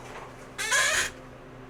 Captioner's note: chair screams in pain